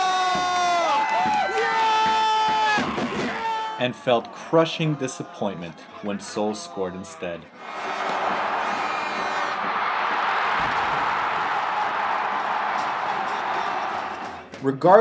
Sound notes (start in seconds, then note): 1.9 that guy screams, too